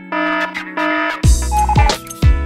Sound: morse code; alarm

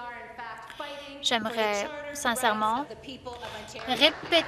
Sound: some Applause

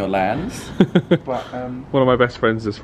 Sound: laughs

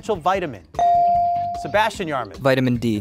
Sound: buzzer pings

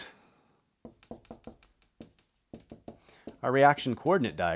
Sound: marker tapping board

